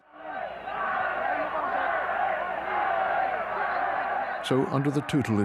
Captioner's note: people shouting